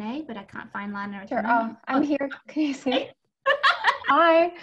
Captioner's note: laughs